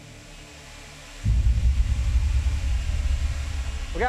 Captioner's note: drones whirring